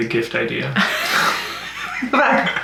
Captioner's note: both laugh